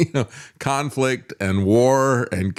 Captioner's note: laughs